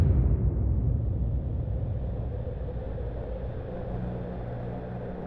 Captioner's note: wind blowing